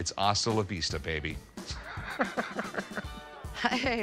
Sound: laughghs

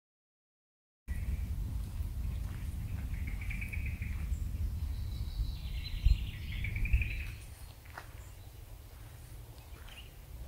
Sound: sound of Oliwa Forest

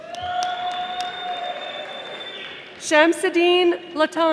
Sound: audience applauding

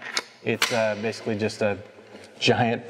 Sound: gun charging click

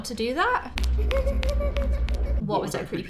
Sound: creepy girl laughing

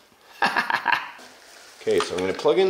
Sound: laughs

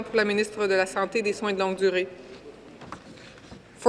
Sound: speaking in French

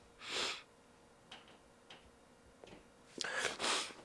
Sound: Cathelaya sniffles

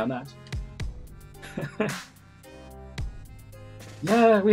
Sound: chuckles

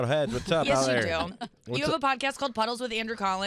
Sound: laughing

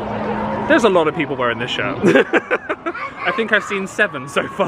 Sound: laughs

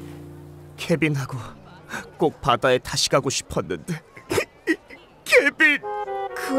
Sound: crying

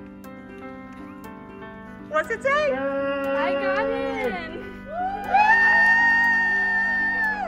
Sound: cheering

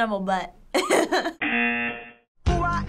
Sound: laughing; buzzer

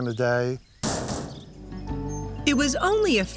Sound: combine slams closes

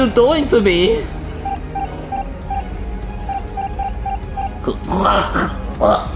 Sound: MongUs beeping; Luigi choking

